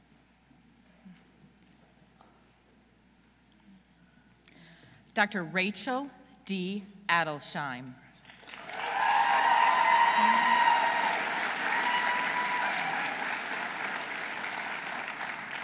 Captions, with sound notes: Dr. Rachel D. Adelsheim. -(audience cheering) -(audience applauding)